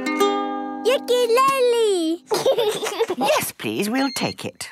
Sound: gentle strumming; giggling

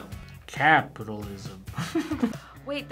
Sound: laughs

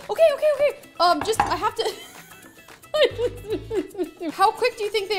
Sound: laughs

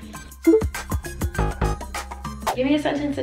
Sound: bell buzzes

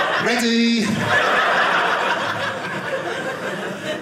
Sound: audience laughing

